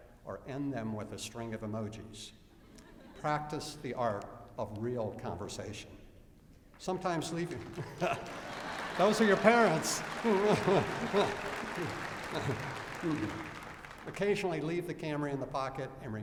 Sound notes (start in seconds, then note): 6.9 applause; 10.2 laughter